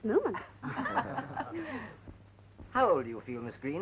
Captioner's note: laughing